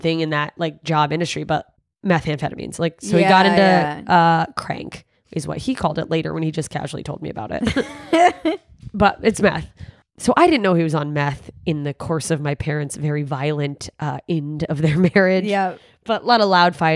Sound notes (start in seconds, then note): 8.1 laughing